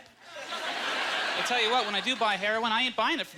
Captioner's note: audience laughter